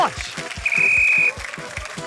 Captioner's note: blows whistle